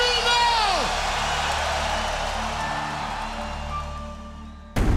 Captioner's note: cheers and applause